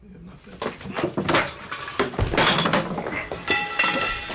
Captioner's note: men grunting